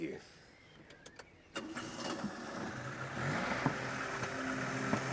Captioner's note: car engine roaring; gentle music